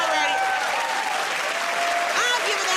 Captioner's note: cheers and applause